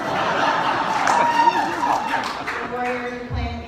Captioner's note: laughter